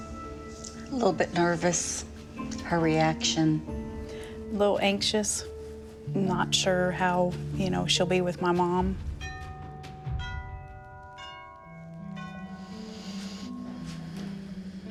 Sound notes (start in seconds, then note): 9.2 doorbell ringing; 12.3 deep breath